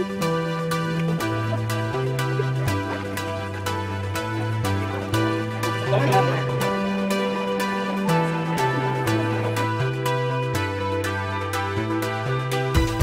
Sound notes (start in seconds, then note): 0.1 upbeat pop music; 2.2 crowd murmuring; 9.8 upbeat pop music